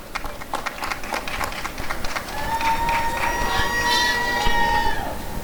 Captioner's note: applause and cheering